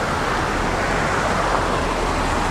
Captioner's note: traffic Noises